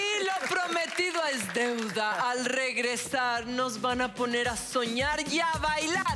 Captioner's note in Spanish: Aplausos